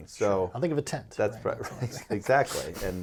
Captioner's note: laughing